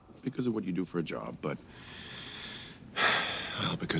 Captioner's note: sighs